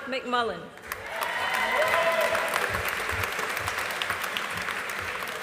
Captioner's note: audience applauding